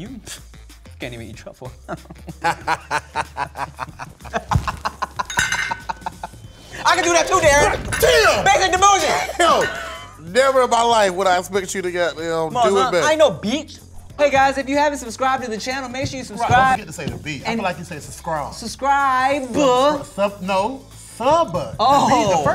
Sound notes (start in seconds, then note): 1.7 both laughing; 1.8 laughs